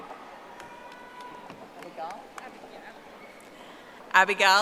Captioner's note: audience applauding